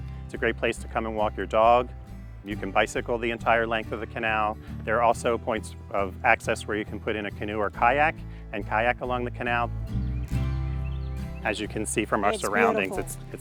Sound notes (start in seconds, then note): 10.1 birds chirping; 10.1 upbeat music continues